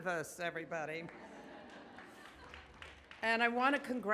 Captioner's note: audience laughs